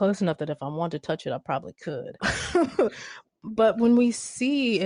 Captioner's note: chuckles